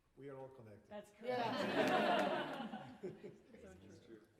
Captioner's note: laughter